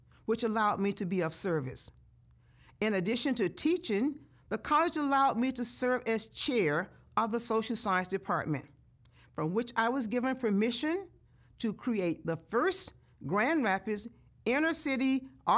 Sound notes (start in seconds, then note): none